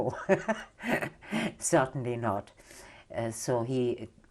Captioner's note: laughs